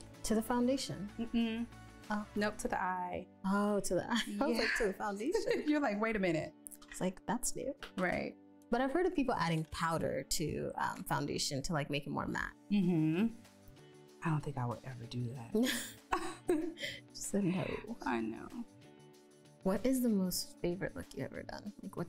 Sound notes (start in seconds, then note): 5.6 laughs; 15.6 both laughing